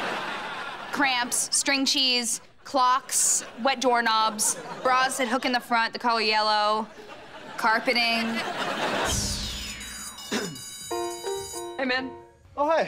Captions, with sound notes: cramps, string cheese, clocks, wet doorknobs,, bras that hook in the front, the color yellow... carpeting. [bell ringing] - Hey, man. - Oh, hey.